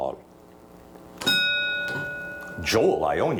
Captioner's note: bell dings